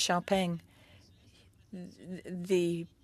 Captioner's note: speaking French